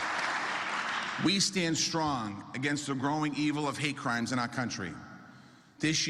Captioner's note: applause